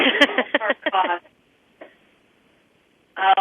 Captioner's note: laughing